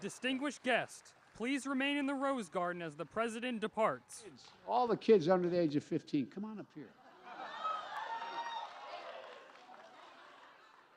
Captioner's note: cheers and applause